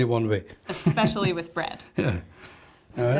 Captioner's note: laughs